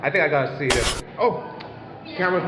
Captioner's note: camera glitches, autofocus failure